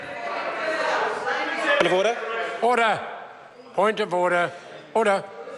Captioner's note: members shout